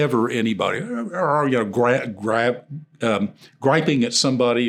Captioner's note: imitates grunting